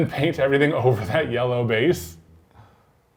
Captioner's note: chuckles